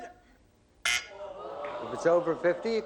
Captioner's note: buzz